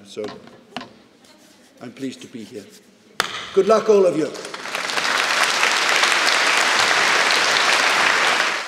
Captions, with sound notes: So I'm pleased to be here. (claps) Good luck, all of you. (audience applauding)